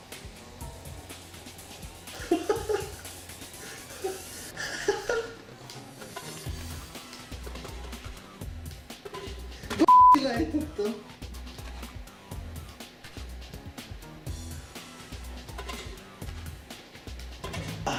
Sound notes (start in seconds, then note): 2.1 more giggling noises